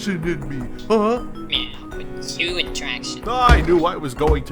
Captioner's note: sotto voce